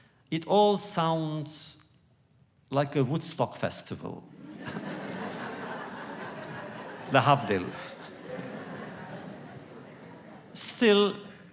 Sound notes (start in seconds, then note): 4.3 laughter; 9.1 laughs